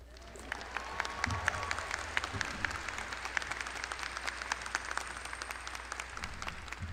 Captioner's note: audience clapping; audience cheering